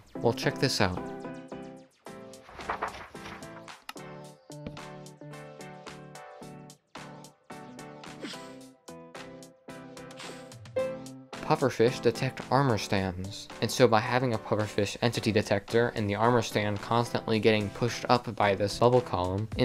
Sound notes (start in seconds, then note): 2.4 page flipping sounds; 10.8 noteblock note